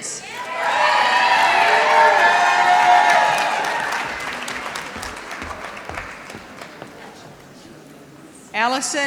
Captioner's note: applause